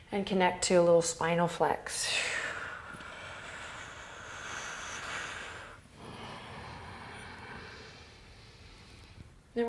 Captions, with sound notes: and connect to a little spinal flex. (deep breathing)